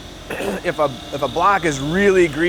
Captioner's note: clears throat